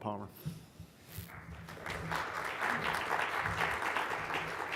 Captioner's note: clapping